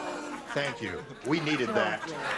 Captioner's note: booing